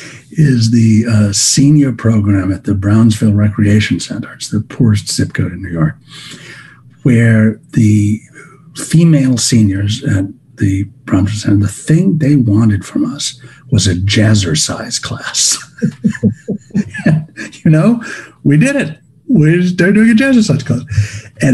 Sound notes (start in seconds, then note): 15.3 laughs